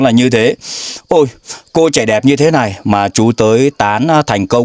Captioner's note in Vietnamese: khịt mũi